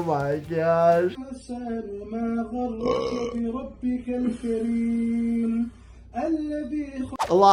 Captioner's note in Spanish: el hablante eructa; orador rezando en árabe